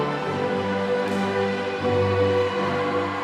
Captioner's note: applause